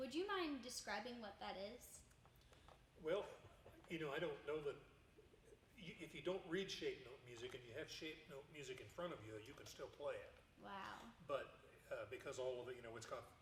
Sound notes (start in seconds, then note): 3.2 chuckling